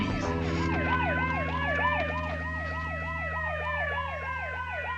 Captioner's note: siren